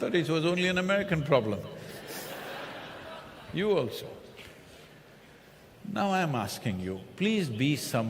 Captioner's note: laughter